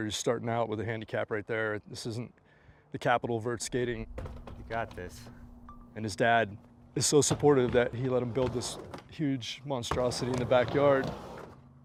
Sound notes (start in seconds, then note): 5.6 camera video dings